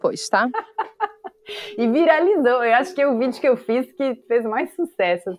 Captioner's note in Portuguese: risadas